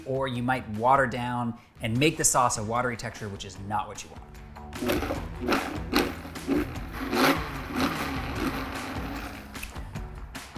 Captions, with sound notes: or you might water down and make the sauce a watery texture which is not what you want. (blender whirring) (upbeat music)